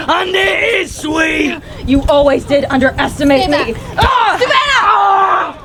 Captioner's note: grunts